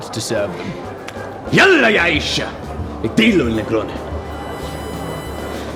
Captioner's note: in Arabic